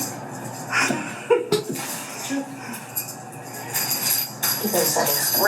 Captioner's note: laughing